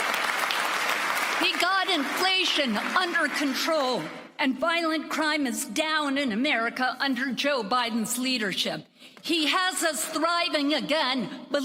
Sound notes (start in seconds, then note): 3.5 applause